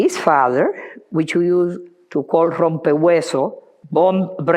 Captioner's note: speaking foreign language